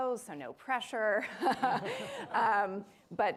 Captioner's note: chuckling